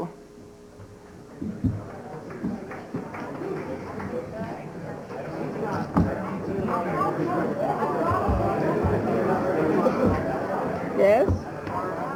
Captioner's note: audience chatter